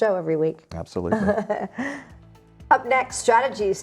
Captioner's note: laughs